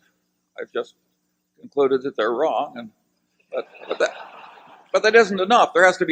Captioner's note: laughter